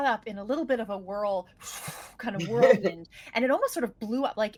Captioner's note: blows air